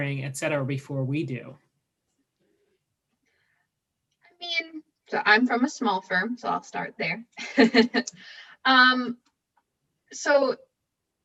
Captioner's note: laughing